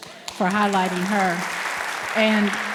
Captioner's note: audience applauds